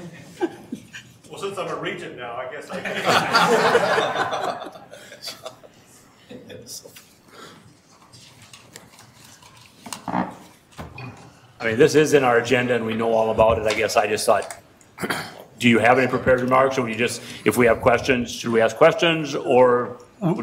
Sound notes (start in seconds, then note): 0.0 chuckling; 2.8 everyone laughing